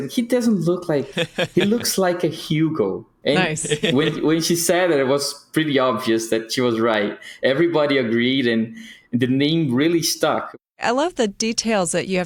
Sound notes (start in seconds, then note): 1.0 laughs